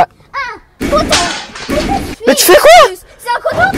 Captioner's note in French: bruit de casse